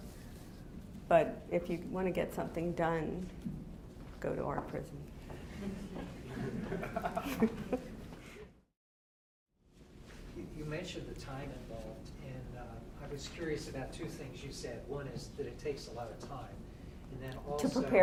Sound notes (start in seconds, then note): 5.6 audience laughing